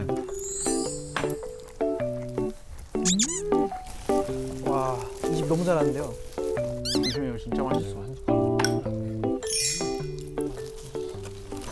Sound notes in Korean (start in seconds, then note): 6.0 와구 와구